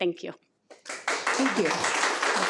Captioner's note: attendees applaud